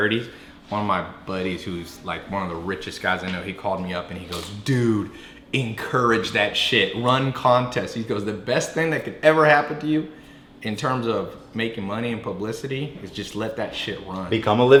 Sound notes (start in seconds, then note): none